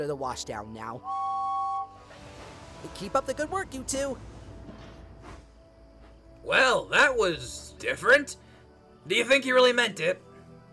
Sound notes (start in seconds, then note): 1.0 james whistles